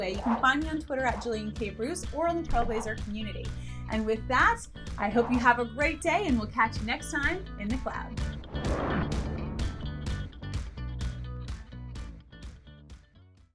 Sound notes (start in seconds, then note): 8.2 air whooshes; 9.4 upbeat music